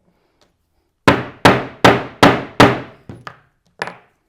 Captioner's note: mallet thudding